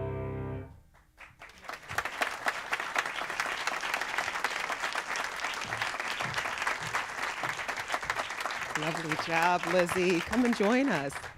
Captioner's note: applause